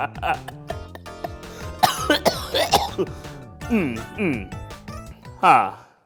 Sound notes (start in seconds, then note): 0.1 cough cough; 3.2 clearing throat